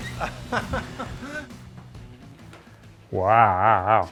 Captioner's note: laughing